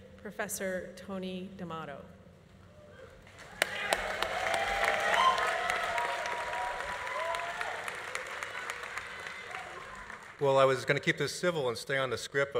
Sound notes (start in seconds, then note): 3.3 audience applauding; 3.4 audience cheering